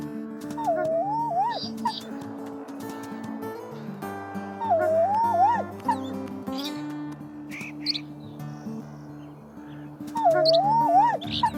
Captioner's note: sounds Of The Wild